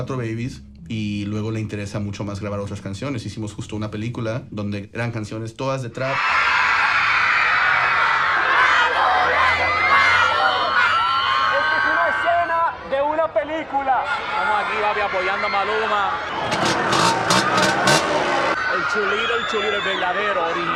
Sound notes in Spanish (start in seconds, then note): 6.2 multitud aclamando; 16.4 rugido de motor